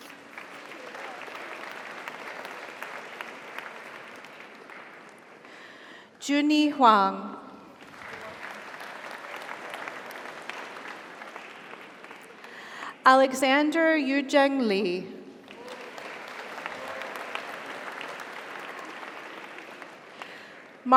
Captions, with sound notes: (audience applauds) (audience cheers) Junyi Huang. (audience applauds) (audience cheers) Alexander Yuzheng Li. (audience applauds) (audience cheers)